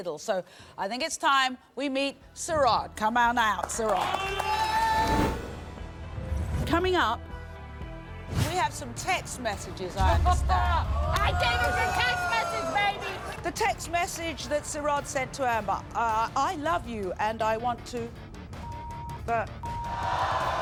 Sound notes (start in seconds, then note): 11.7 yelling; 12.5 audience gasps; 20.4 audience groans